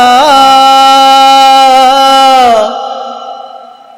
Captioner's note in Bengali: চিৎকার করা